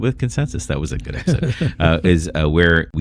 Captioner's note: uh